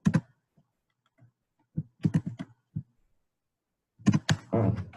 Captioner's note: keyboard keys clicking